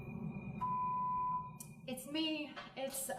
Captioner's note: phone rings